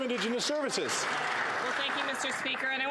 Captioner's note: some Applause